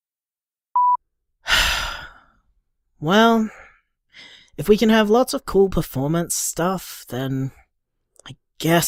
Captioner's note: sighs